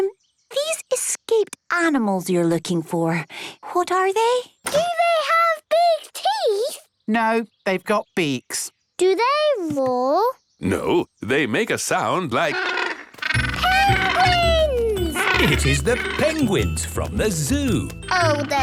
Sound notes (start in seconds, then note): 14.9 honking